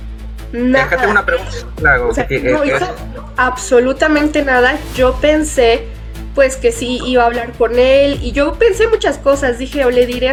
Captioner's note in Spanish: risas